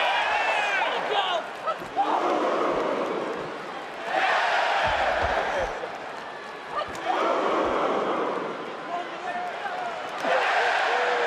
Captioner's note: crowd boos and cheers